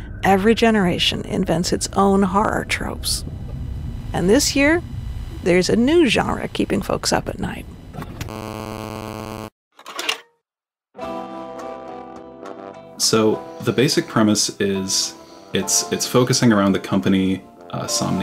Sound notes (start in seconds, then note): 8.5 TV static buzzes; 11.5 elevator music